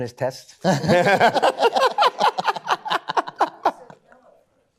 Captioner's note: laughter